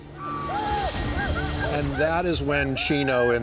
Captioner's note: snickers; whooping approaching quickly